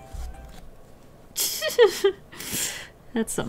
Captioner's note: giggle